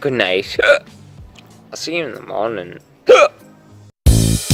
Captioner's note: hiccup; hiccup